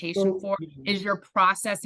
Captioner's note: faintly speaking